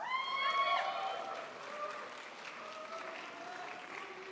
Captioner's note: crowd applauds